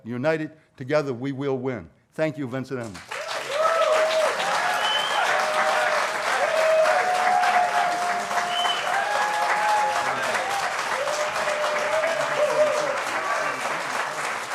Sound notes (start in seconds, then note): 2.8 applause